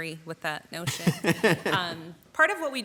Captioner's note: laughs